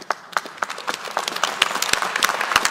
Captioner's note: applause